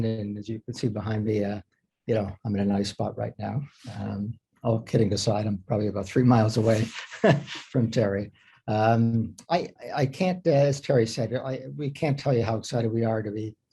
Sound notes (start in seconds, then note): 6.6 chuckles